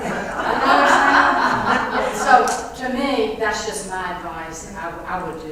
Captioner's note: laugh